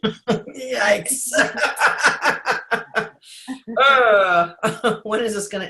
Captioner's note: laughs